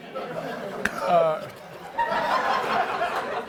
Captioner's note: laughter